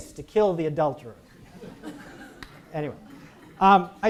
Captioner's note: audience laughs